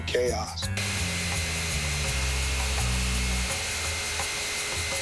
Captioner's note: sounds of electric tool